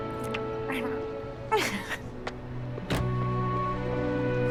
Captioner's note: laughing